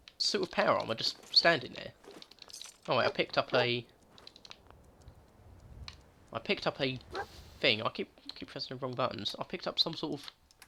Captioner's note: SSG Michael Daly audio log